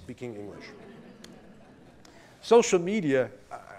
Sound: laughter

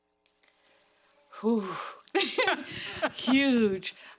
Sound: laughing

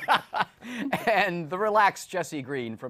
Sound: laughter

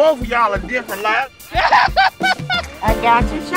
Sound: all laugh

